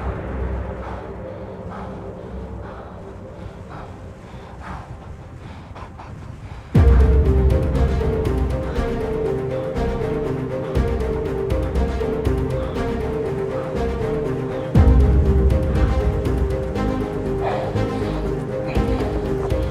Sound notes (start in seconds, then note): 4.9 sobbing